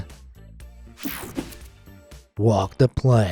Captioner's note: screen whooshing